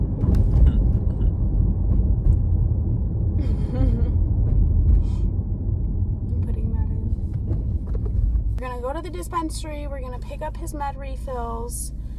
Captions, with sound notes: (laughs) I'm putting that in. We're gonna go to the dispensary, we're gonna pick up his med refills,